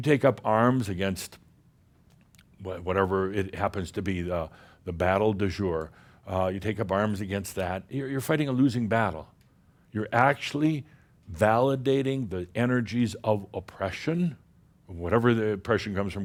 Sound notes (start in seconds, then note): none